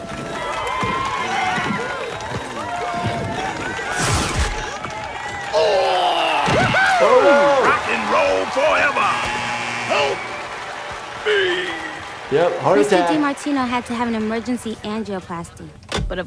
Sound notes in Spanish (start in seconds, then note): 0.1 multitud aclamando; 2.8 patines rascando el suelo; 6.5 ruido de golpe; 9.7 suena el timbre